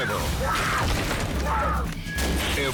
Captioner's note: screams; object clunks